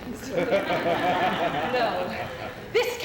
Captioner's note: laughter